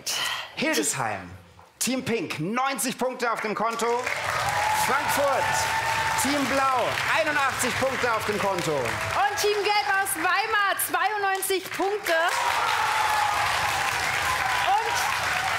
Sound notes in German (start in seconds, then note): 8.7 Jubel; 13.5 Applaus